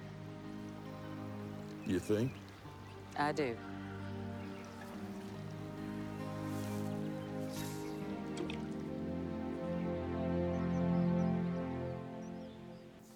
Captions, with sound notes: You think? I do. [plop]